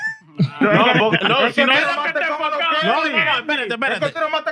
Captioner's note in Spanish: Riendo; Hablando en idioma extranjero; Riendo; Hablando en idioma extranjero